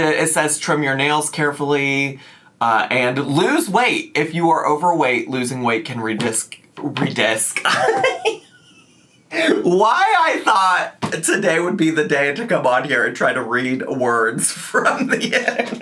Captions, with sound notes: It says, "Trim your nails carefully, and lose weight if you are overweight. Losing weight can redisk," redisk. (laughs) Why I thought today would be the day to come on here and try to read words from the internet?